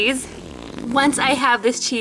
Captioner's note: fart noise